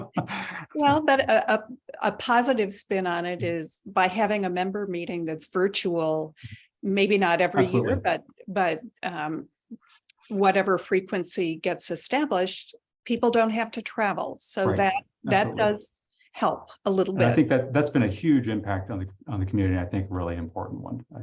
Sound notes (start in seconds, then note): 11.1 chuckling